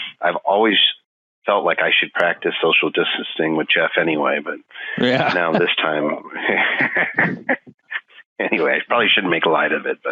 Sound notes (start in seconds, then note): 4.9 laughing